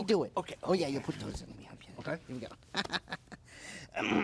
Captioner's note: whispering; laughs